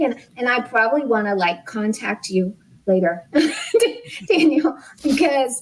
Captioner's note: laughs